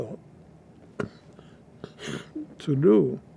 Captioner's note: coughing